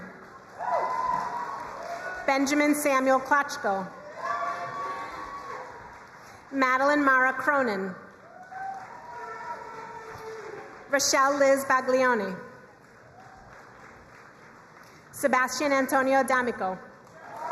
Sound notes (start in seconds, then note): 0.1 crowd cheering and applauding; 3.9 crowd cheering and applauding; 8.1 crowd cheering and applauding; 12.7 crowd cheering and applauding